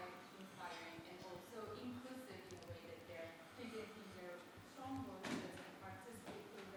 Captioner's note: faintly speaking